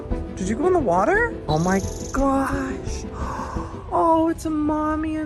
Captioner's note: gasps